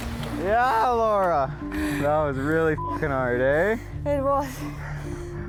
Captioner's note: beep